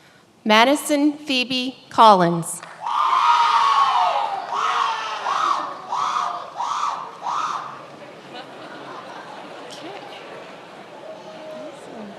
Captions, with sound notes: Madison Phoebe Collins. (many applauding) (many laughing)